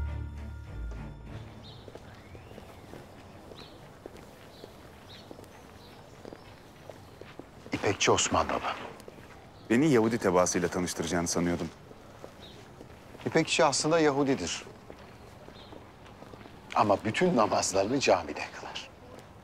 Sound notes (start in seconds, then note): 1.4 birds chirping sound; 1.4 footsteps